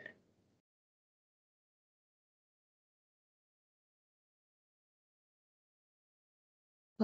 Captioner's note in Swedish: Tystnad